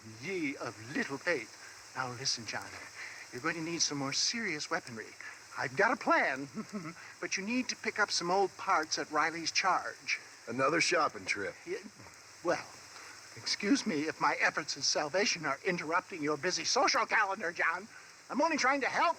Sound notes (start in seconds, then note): 6.5 laughs